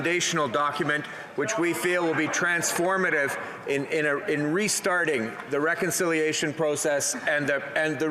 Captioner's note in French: voix de l'interprète